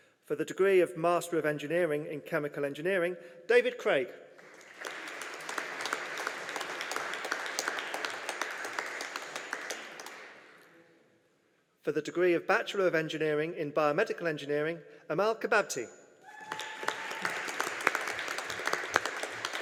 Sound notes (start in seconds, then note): 4.4 audience applauding; 16.3 audience applauding